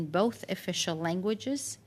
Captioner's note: speaking French